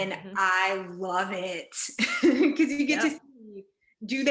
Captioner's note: laughs